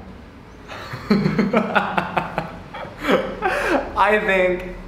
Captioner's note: laughter